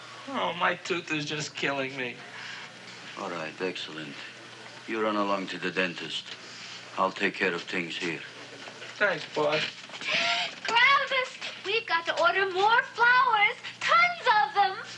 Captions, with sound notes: Oh my tooth is just killing me. - All right, excellent. You run along to the dentist. I'll take care of things here. - Thanks Boss. - (gasps) Gravis, we've got to order more flowers! Tons of them!